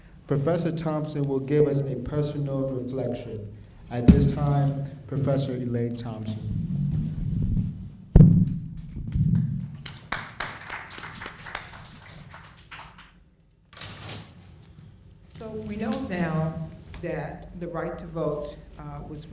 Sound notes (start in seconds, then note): 9.7 applauding